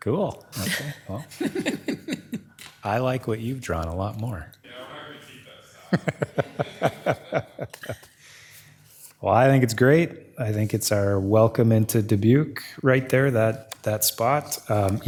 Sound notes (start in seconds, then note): 5.8 all laughing